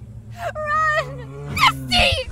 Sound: screams

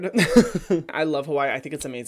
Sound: laughs

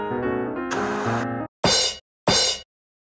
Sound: TV static; drum cymbal

